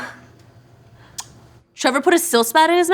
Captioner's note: lips smack